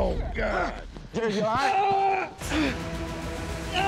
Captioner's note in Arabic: تأوه; تأوه